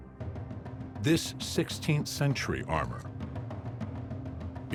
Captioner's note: none